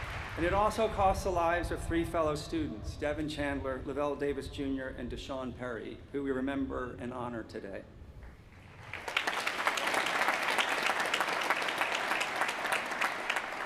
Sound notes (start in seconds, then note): 0.0 cheers & applause; 10.5 applause